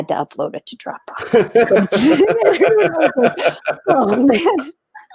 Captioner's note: everyone laughs